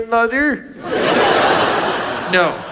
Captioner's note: audience laughs